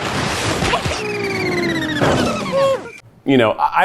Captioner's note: alien spaceship whirs